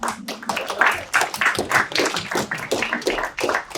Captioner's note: applause